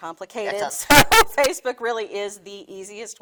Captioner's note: laughing